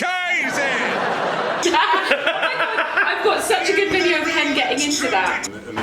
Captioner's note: laughs